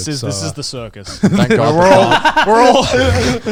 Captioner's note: speakers laughing; stuttering